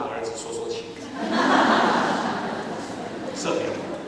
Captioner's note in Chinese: 哄堂大笑